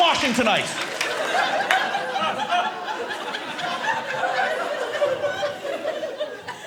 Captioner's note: audience laughing